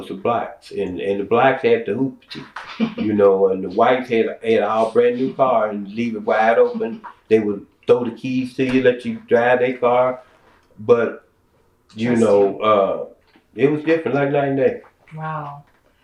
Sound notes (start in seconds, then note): 2.7 laughter